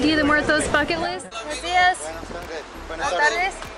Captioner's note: speaking foreign language; man speaking in foreign language